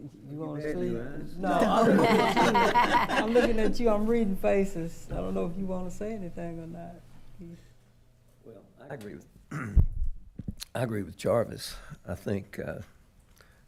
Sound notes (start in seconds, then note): 1.4 attendees laughing; 1.6 laughing; 9.5 clears throat